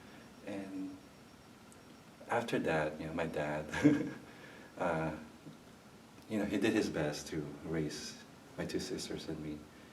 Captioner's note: chuckles